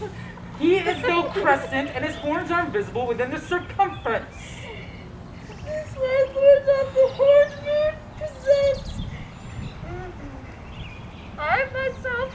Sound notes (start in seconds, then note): 4.2 crying